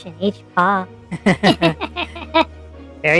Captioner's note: Mudgie and Olivia Laugh